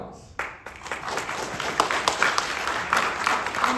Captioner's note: audience applauding